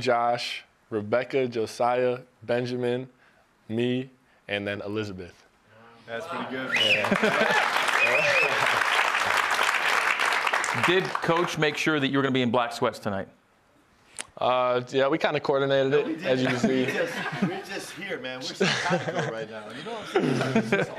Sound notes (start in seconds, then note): 12.0 applause